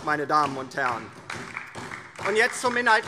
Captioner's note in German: Beifall DIE LINKE und vereinzelt SPD